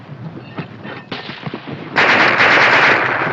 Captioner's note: machine gun fires